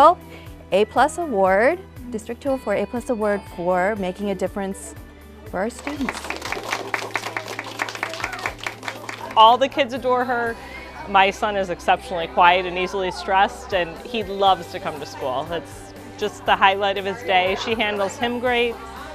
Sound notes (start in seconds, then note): 5.8 applause